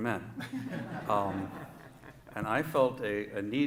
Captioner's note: laughter